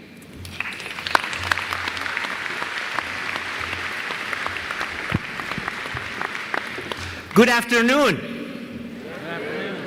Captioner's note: applause